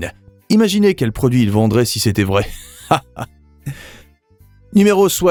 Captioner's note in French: rires